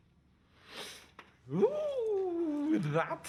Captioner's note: exclaims